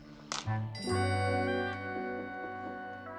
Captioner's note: bell ringing